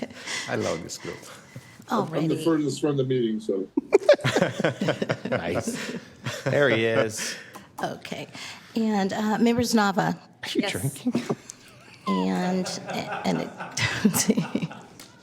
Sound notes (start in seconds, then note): 3.8 laughter